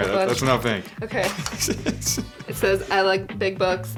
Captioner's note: laughing